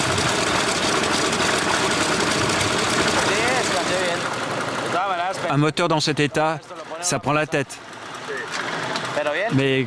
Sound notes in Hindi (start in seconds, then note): 3.9 स्पैनिश बोलते हुए